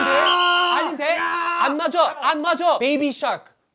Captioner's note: confident